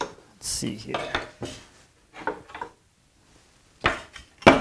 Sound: saws clunking

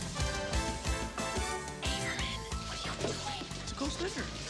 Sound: whispering

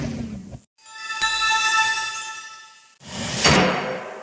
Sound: shimmering tone; dramatic thump

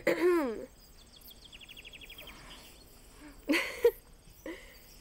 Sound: Cody clears throat; laughs

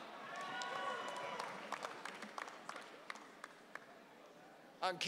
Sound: audience cheering

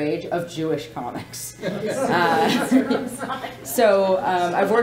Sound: laughing

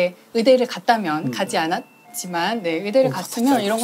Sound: ding dong

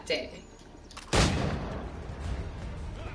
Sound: gunshot

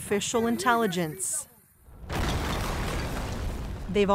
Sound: explosion booms

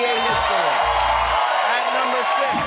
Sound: cheering

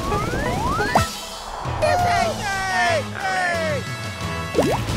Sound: cheering

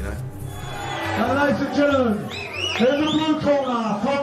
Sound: crowd cheering

